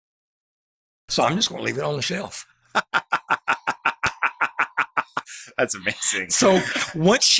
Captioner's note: laughs